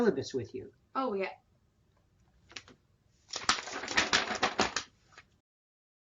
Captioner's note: papers shuffle